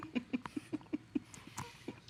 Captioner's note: laughter